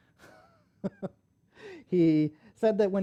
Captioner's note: laughs